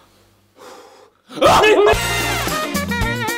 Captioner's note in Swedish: skrik